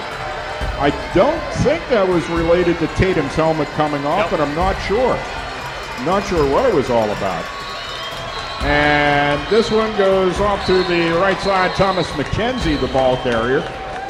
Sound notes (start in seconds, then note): 7.5 crowd Noise